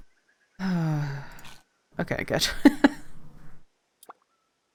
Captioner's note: laughs; sighs; laughs